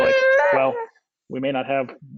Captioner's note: cries